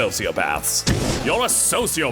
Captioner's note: fwoosh